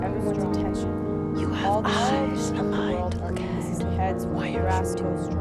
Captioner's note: whispered